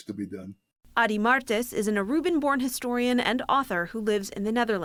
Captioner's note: voice-over